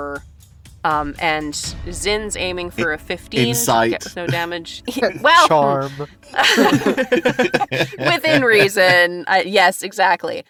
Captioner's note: laughs